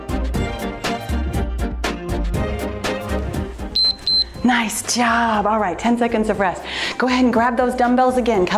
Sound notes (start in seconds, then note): 3.7 timer beeps